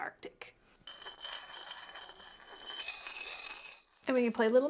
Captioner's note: rocks scraping